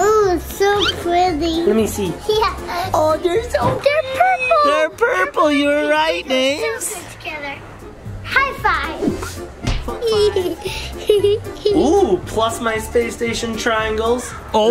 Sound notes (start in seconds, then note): 9.9 giggles